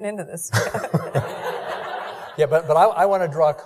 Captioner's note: laughing